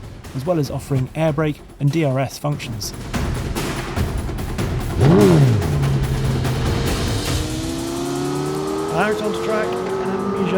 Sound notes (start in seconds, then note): 3.2 powerful music; 4.6 engine revs